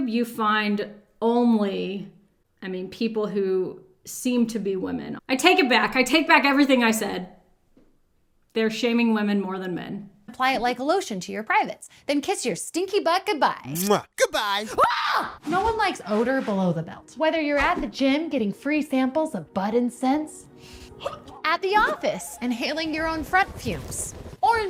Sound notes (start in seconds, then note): 13.7 kisses; 14.5 screams; 21.0 gags